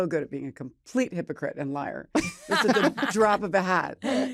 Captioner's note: laughter